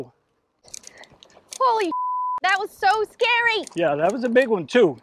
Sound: beep

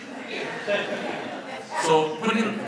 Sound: audience laughs

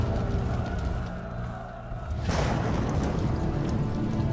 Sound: thunderclap

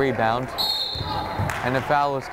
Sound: whistle blows

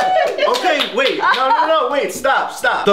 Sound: laughs

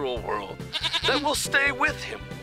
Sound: bleats

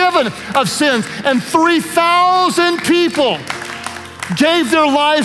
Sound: worship leaders applaud

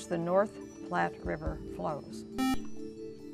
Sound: buzzer

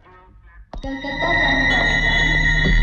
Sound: railway announcement

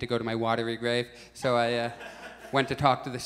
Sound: audience chuckles

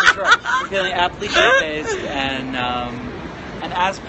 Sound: laughing

